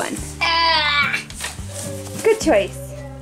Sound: child grunting

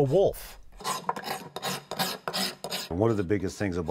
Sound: scratching sounds

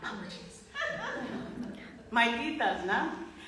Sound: woman laughing

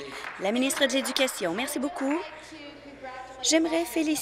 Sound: applause

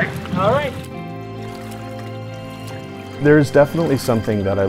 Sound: water splashing

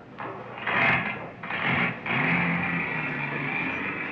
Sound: people chattering; car rumbling

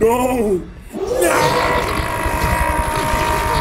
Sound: roars

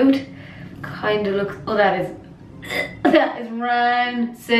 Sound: gags

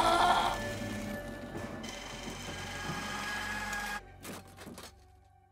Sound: lamp thumping

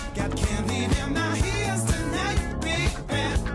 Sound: none

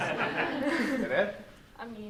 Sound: laughter

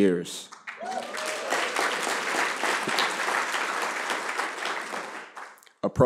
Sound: applause

